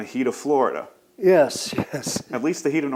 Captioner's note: laughs